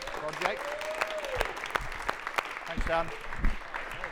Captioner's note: audience applauding